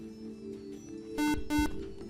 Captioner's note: buzzer